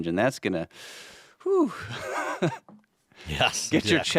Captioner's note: chuckles